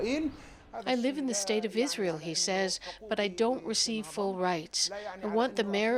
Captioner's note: speaking Foreign Language